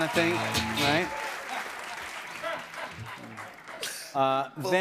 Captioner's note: laughter